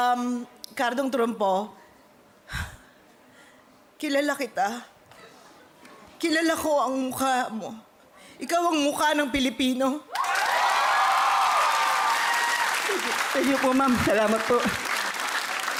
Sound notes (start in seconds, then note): 3.3 exhales sharply; 10.1 applause, cheering